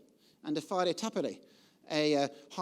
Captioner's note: speaking foreign language